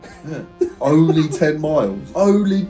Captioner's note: laughs